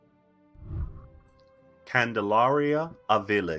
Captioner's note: whooshing